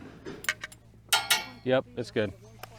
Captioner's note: metal clanks